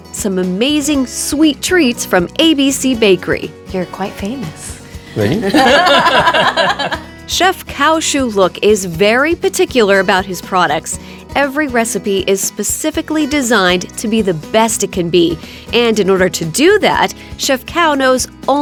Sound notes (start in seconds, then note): 5.0 laughing